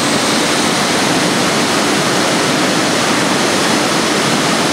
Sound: jet engines sound winding up

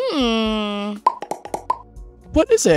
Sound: popping

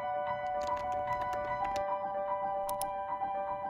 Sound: lively piano music; keyboard clicking; mouse clicks

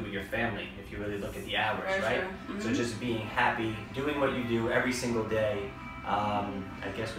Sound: ahh

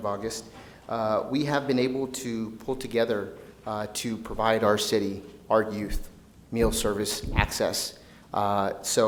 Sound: none

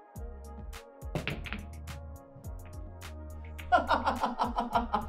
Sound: pool balls clack; laughs

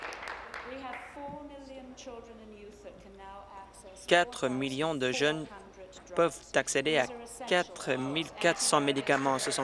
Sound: applause

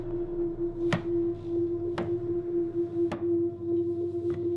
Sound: footsteps Approach

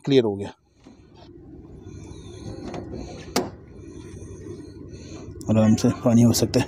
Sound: opening Sound

